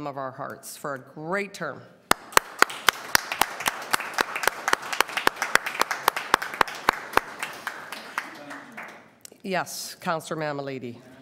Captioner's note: applause